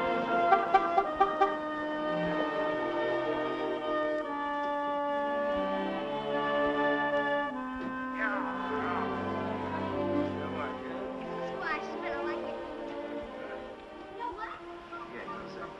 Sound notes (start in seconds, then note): 1.8 horn honking